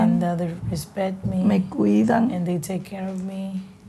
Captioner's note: speaking spanish; speaking spanish